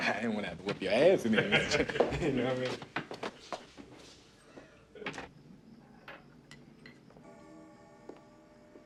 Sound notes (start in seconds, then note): 1.2 laughing